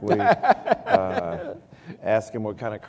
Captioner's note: laughter